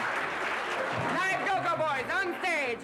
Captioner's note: laughter